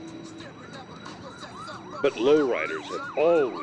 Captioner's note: siren wails